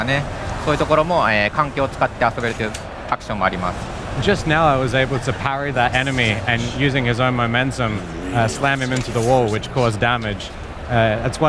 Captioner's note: speaking global language